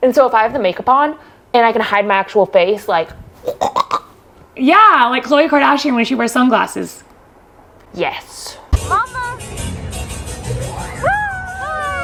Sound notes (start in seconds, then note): 3.5 imitates gremlin growling; 8.8 upbeat music